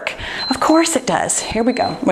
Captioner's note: timer beeps